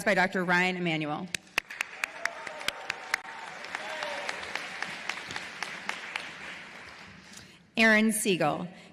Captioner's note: applause